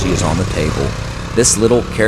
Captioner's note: motorcycle Engine Sounds